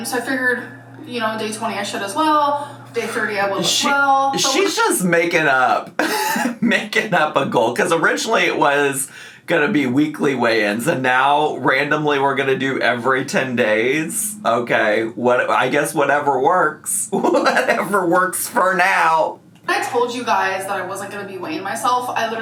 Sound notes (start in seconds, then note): 5.8 laughs